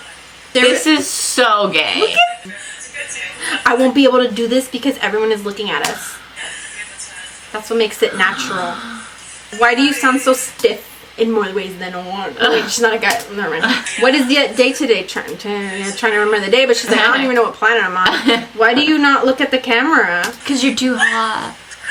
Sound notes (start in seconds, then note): 5.8 gasps; 8.0 gasps more